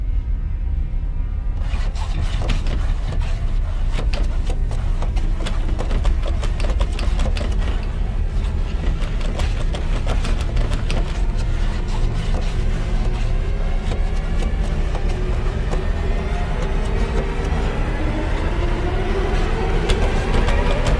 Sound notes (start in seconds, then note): 0.1 unsettling tones; 3.1 door rattling